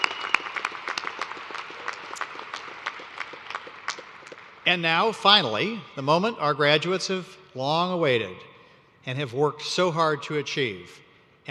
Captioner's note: applause